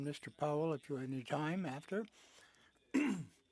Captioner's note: speaking French